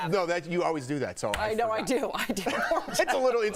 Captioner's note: laughter